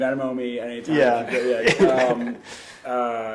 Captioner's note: laughing